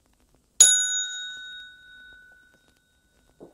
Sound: bell dinging

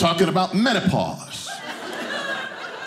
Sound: audience laughing

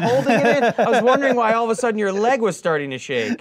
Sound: laughing

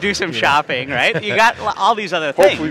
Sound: laughs

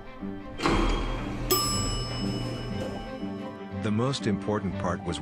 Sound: door opens; elevator shutters; elevator dings

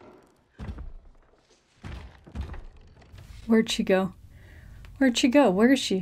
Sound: footsteps thuds

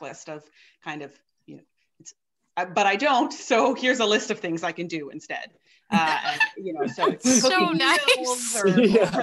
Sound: laughter

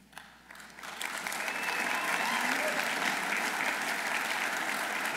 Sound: audience applauding

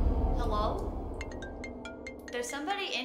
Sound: phone ringing

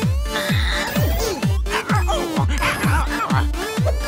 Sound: squawking

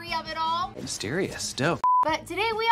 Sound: beep

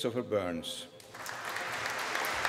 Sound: applause

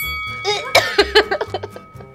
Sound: gags

